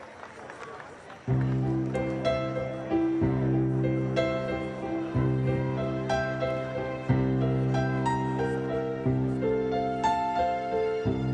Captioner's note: scatter applae